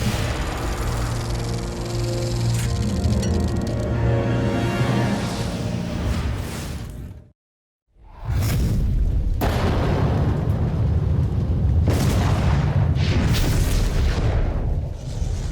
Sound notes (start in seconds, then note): 1.2 film projector whirring over rousing orchestral music; 9.4 thunder cracking over rumbling ambiance